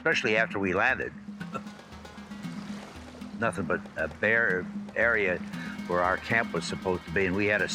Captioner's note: laughs